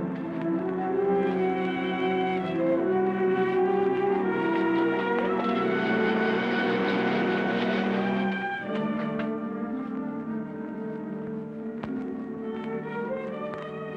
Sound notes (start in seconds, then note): none